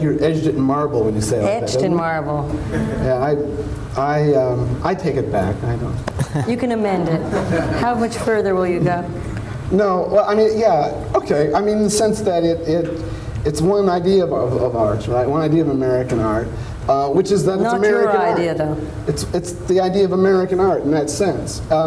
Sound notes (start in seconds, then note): 7.0 laughter